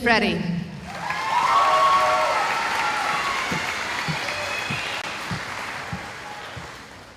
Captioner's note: cheering